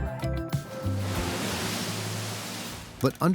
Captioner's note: water rushing